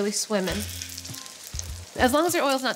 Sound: oil sizzles

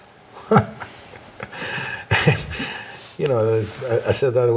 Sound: laughs

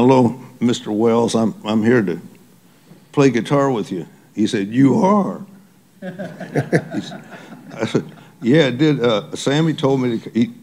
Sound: laughter

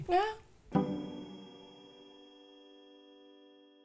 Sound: bell dings

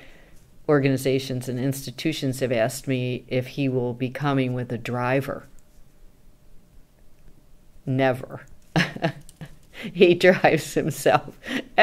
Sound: laughs

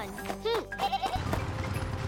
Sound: bleating

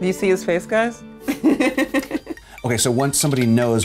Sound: laughing

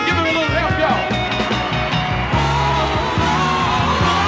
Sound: crowd cheering

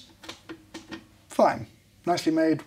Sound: buttons clicks

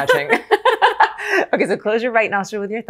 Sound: laughing

